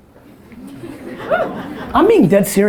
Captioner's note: audience laughter